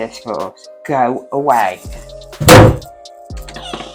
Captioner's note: slams door